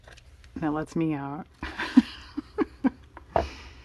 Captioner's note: laughs